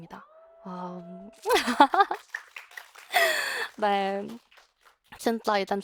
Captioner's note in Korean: 박수